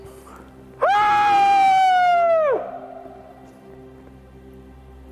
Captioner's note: aullando